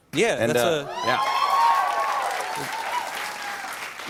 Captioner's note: cheers and applause